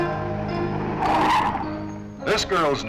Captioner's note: tires screeching